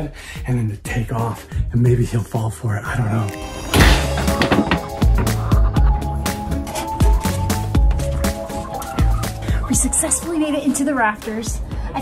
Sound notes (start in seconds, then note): 4.0 suspenseful music; 6.1 chickens clucking